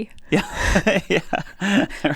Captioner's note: laughs